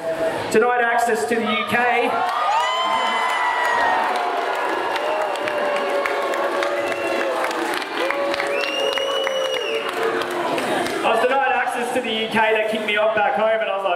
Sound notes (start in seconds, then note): 5.9 crowd booing